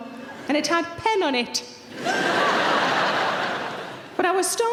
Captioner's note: audience laughs